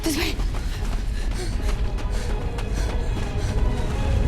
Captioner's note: panting